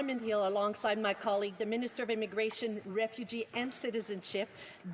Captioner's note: speaking French